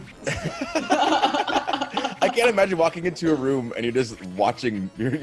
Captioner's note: laugh